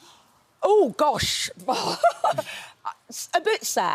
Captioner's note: chuckles